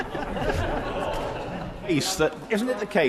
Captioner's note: members laugh